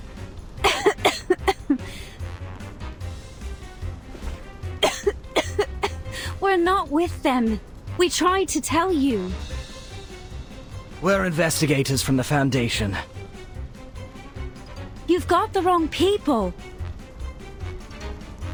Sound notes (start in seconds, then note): 4.8 cough